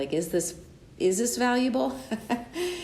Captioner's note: laughs